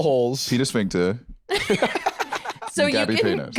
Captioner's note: laugh